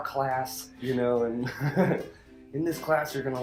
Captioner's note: laughs